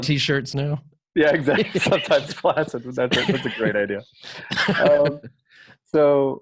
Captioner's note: laughter